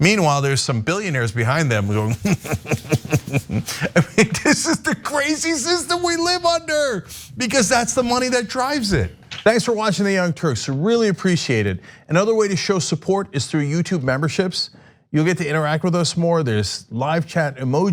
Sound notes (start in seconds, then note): 1.9 laugh